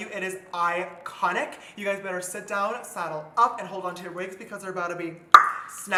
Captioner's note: pop